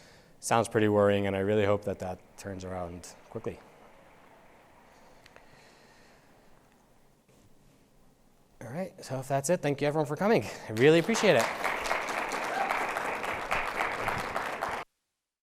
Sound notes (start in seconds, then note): 10.7 audience applauding